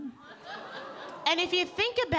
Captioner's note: audience laughing